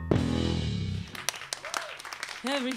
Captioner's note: applause